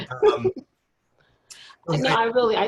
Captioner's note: laughing